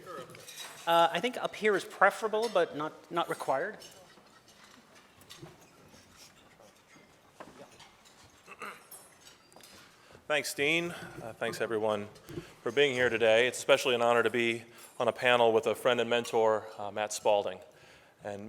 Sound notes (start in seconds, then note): 4.9 clears throat